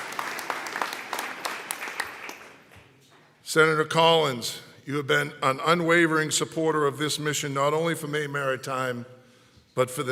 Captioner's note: applause